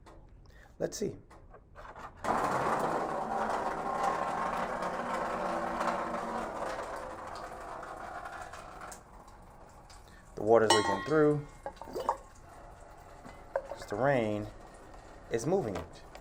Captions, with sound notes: Let's see. (draining) The water is going on through, 'cause rain is moving it.